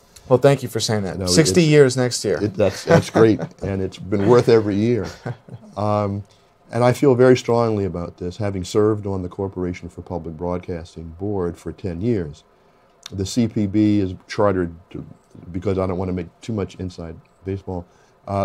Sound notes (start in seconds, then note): 4.2 laughs